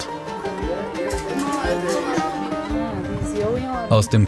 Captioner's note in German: Stimmen im Hintergrund, belebte Musik